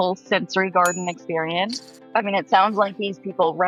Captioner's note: text dinging